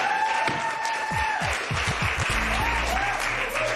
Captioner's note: cheers and applause